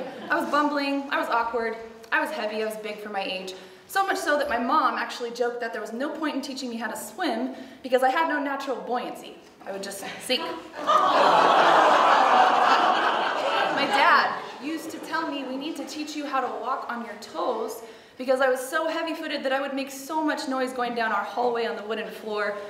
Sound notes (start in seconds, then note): 10.3 audience laughs